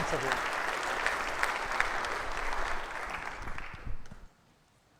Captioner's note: audience clapping